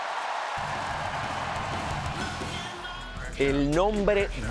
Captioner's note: applause